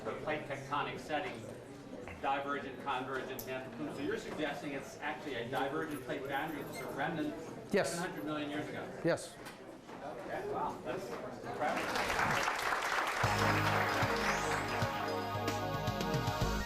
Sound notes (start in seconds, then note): 11.6 audience applauding; 13.2 upbeat music